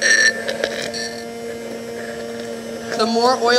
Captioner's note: immersion blender whirs